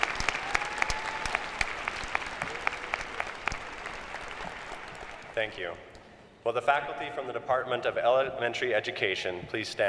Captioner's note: applause